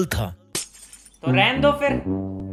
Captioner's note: glass and hope shatters